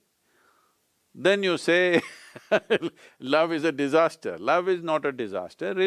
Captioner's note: laughs